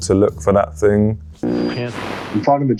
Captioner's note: radio buzzing